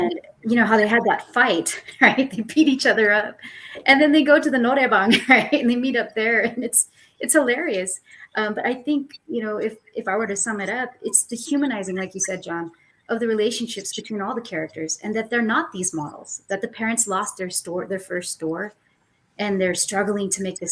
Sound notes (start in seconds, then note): 0.5 laughs; 5.0 laughs